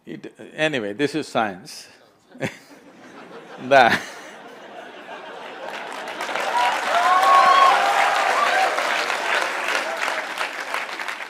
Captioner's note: laughter/Applause